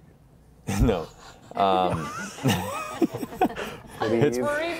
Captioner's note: laughter